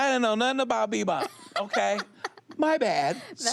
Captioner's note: she laughs